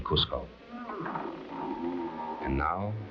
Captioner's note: bridge creaking